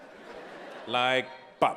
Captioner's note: audience laughing